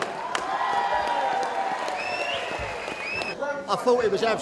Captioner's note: applause